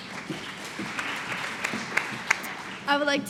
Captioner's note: applause